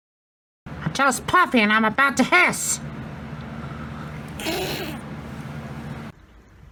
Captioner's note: hisses